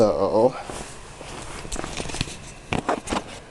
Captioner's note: camera bonks